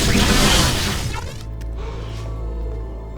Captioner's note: gasping